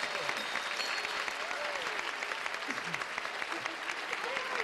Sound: cheers and applause

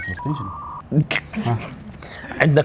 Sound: chuckles

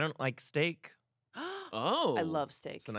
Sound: gasps

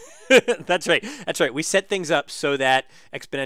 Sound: laugh

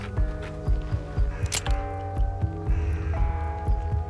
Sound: cocks gun

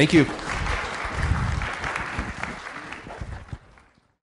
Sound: audience applauding

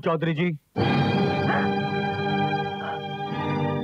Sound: gasps

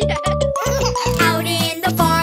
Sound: kids chuckling

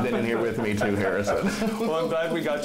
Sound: laughing

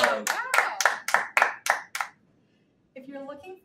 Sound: hands clapping

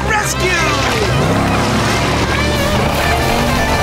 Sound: accelerating

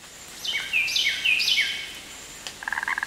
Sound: birds chirping; frog croaking

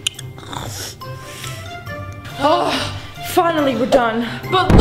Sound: snoring

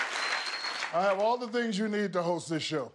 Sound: laughter and applause

